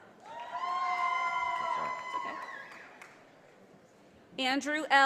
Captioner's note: audience applauding